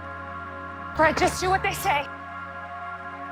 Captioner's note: voiceover